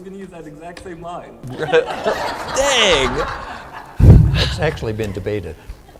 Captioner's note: laughter